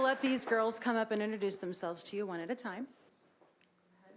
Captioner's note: applause